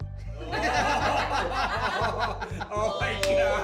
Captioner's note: laughter